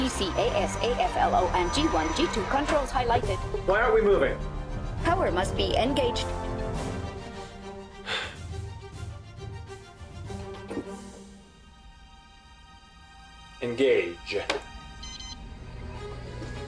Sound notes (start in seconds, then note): 8.0 Miles sighs